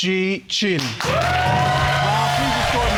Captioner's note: audience applauding